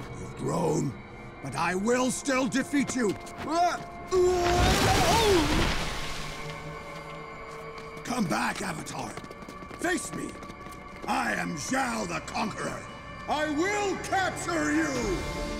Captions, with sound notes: You've grown but I will still defeat you! [grunting] Come back, Avatar, face me. I am Zhao, the Conqueror. I will capture you!